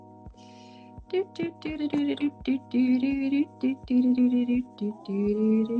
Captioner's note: humming